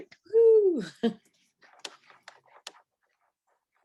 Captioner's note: chuckles